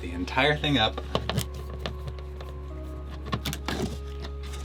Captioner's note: screwing